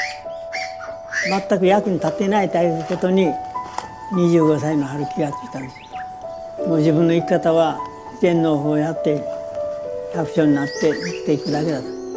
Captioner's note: speaking Japanese